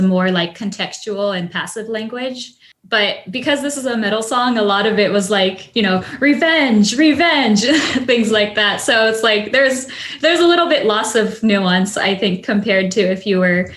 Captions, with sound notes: and Japanese as a more contextual and passive language. But because this is a middle song, a lot of it was like, "Revenge! Revenge!" (chuckles) Things like that. So it's like, there's a little bit loss of nuance, I think,